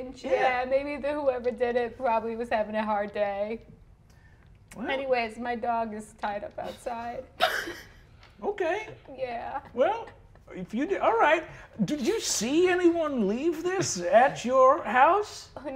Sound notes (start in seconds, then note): 7.4 laughs